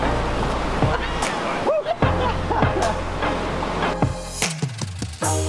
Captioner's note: group laughs; upbeat pop music